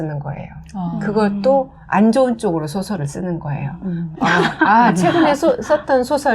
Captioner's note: laughter